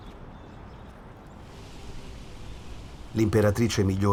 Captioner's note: whistling wind